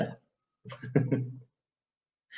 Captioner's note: laughing